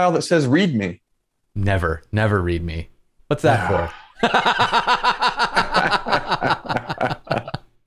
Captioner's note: laughter